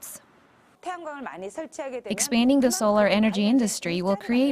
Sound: Korean

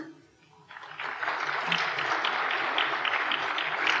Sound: applause

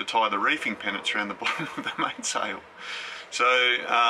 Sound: laughs

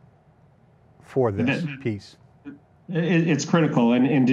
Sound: mumbling

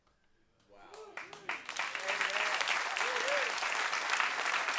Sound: cheers and applause

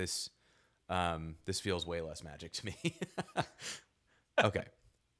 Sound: laughing

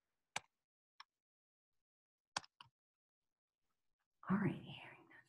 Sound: computer keyboard clicking

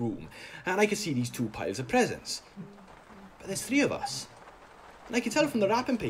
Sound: rain falling on the caravan roof

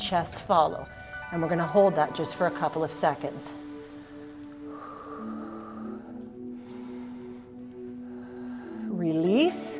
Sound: deep breathes

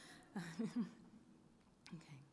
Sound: chuckles

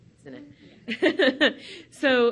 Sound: laughs

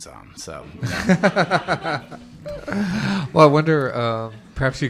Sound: laughter

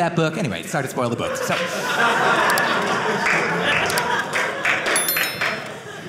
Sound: audience laughing

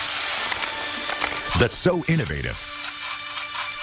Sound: sizzling

